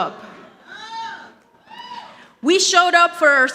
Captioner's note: audience applauding